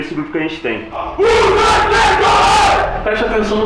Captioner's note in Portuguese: grito de guerra